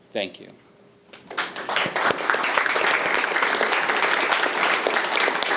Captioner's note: audience applauding